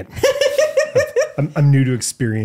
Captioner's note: laughing